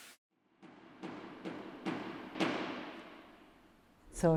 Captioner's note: hammering sounds